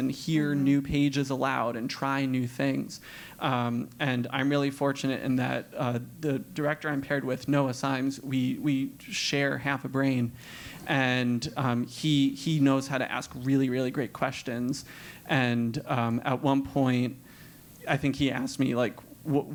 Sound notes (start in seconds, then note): none